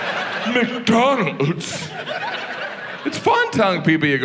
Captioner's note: audience laughs